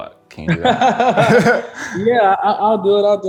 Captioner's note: laughter